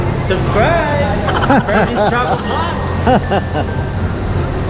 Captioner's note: laugh